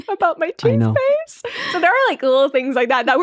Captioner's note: laughing